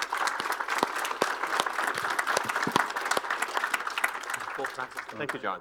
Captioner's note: applause